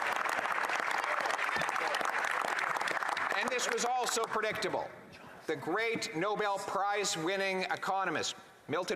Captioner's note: some Applause